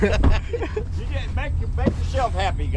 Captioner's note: chuckling; laughing